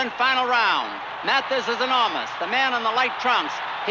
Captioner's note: crowd cheering continues